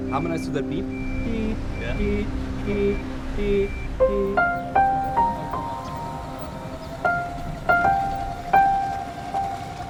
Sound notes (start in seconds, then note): 1.6 beeping; 4.3 soft piano music